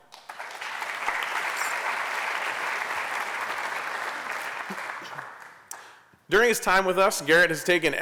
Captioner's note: applause